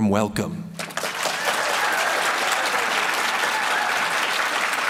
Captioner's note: applause